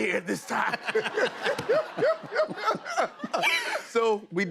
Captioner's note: laughter